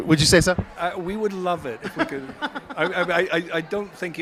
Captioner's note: laughs